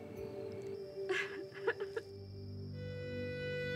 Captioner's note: Aditi crying